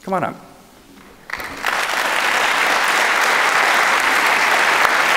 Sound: audience clapping

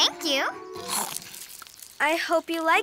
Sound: Snap Pea chomps

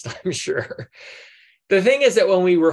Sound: laughs

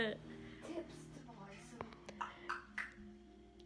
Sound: clicks tounge three times

